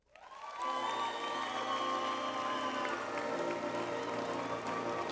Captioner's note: audience applauds